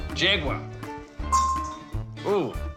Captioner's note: dink!